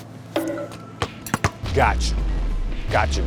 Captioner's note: basketball bouncing